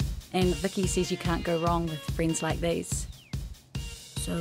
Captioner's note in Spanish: Voice over